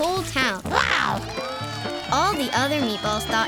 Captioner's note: cheering